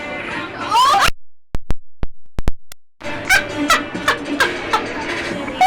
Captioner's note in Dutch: brullen, lachen, gieren